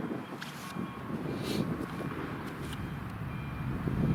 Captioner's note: sniffle